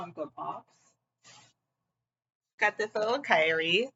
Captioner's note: more awkward silence